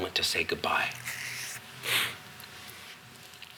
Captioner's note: sniffles